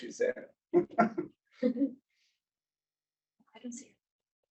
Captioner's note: chuckles